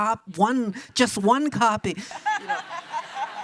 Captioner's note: audience laughs; laughs